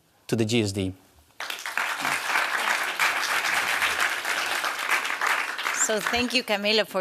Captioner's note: applause